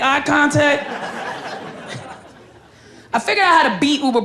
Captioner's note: crowd laughs